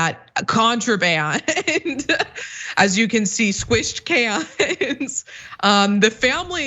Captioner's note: laugh